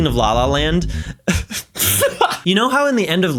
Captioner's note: breaks down laughing